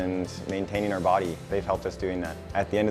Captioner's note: none